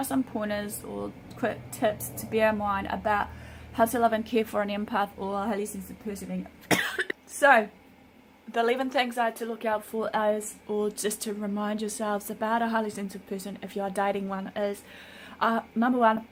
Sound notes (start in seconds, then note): 6.6 coughs